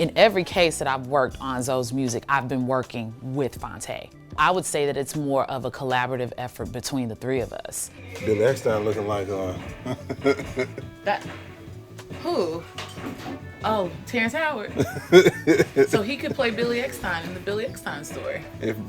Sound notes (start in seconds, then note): 9.3 laughs; 14.7 laughs